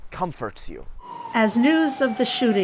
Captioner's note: sirens blaring